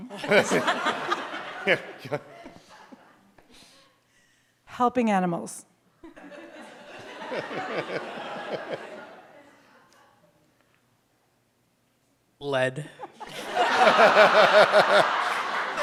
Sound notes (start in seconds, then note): 0.0 audience laughs; 6.1 audience laughs; 13.0 audience laughs